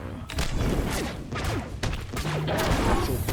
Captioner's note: gunshots